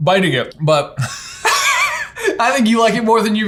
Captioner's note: laughs